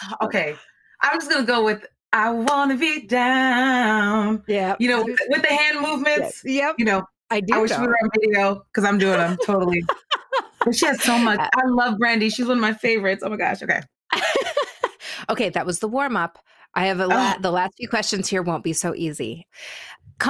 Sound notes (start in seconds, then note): 9.0 laughing